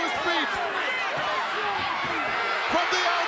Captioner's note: crowd yelling